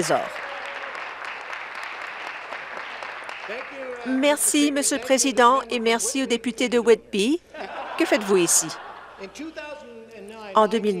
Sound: applause; cheers

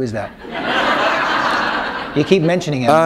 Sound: laughter

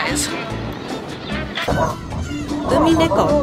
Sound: uminekos cawing

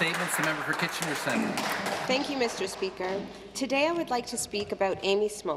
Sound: some Applause

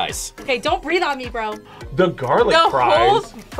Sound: gasps

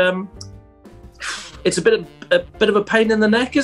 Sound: sighs

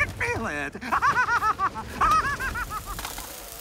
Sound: laughs

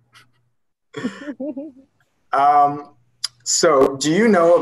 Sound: laughing

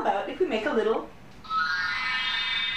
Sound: magick Wand Sound

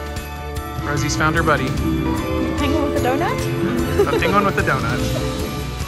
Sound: laughs

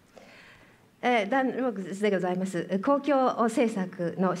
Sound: speaking japanese

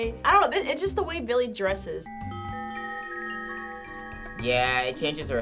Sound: bells tinkling

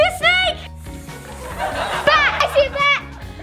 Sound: all hissing

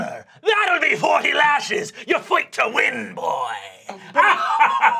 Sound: cackling

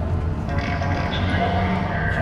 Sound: droid noises

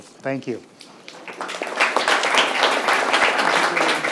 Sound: audience applauds

